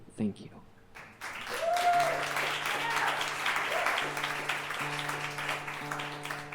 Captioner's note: audience cheering and clapping